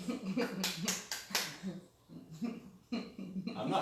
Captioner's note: laughing